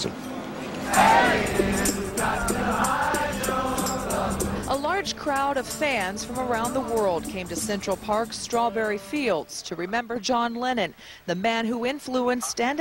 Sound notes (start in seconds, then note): 3.8 voice-over